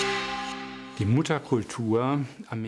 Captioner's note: speaking german